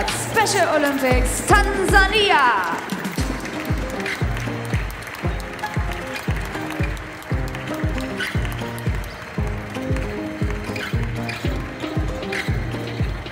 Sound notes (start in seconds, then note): 2.0 applause; 3.1 ♫ Midtempo guitar music ♫